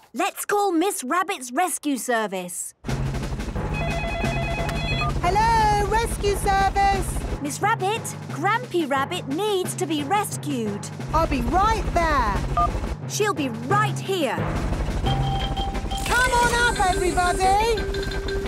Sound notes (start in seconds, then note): 3.7 phone ringing; 12.2 phone beeps; 14.4 distant helicopter noise